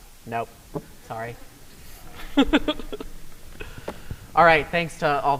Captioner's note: laughs